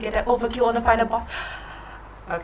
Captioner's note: heavy breathing